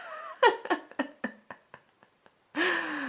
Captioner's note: laughs